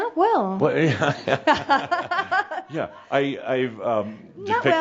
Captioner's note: they both chuckle